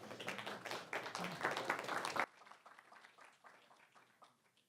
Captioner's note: audience clapping